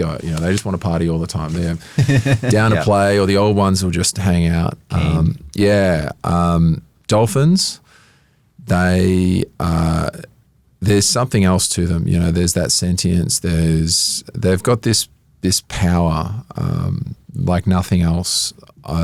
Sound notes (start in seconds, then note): 1.8 laughs